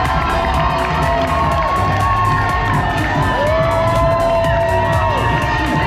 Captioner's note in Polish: Aplauz